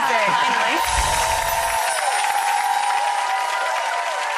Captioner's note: cheering and applause